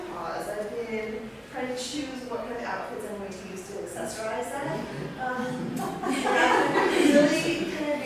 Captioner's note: laughter